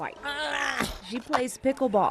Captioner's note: groaning